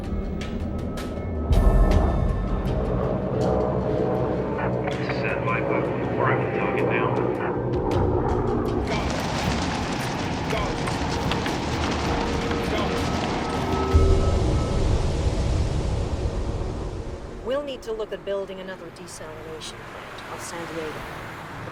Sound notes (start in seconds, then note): 1.4 airplane engine roaring; 7.0 dramatic music; 8.4 wind gushing; 13.1 wind gushing; 15.4 dramatic music